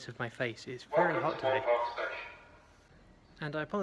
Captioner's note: PA interrupting: "Welcome to Moor Park station"